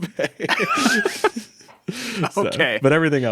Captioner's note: both laughing